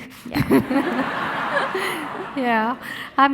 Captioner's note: audience laughing